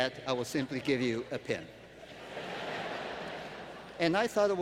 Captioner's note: laughter